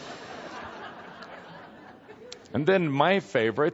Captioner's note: more laughter